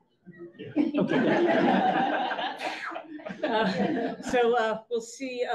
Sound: audience laughs

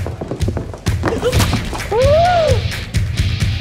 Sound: gasps; upbeat electric guitar riff

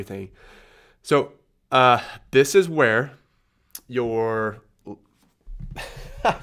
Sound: laughs

